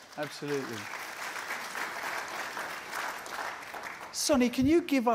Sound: applause

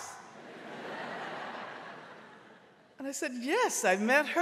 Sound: audience laughing

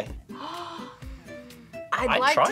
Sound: gasps

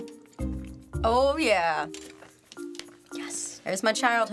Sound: whispers

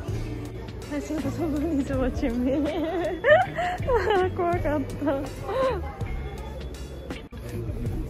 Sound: laughs

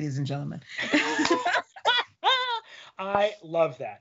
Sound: laughing

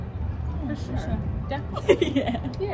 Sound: Saniyya laughs

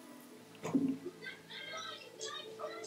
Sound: laughs

